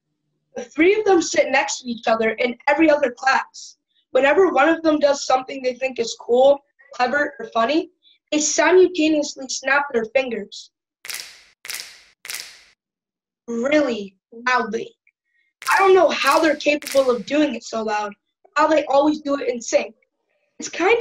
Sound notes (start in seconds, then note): 11.1 snapping fingers three times; 15.9 snapping fingers